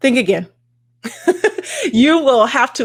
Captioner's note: laughs